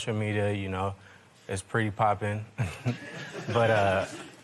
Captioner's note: laughter